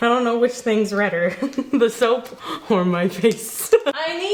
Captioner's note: chuckling